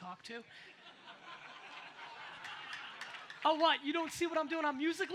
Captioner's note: audience laughs